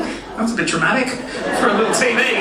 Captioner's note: audience laughing